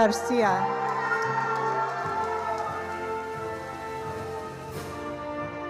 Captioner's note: attendees applauding